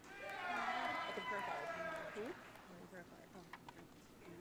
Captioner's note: audience cheering